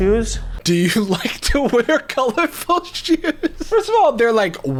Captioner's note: laughing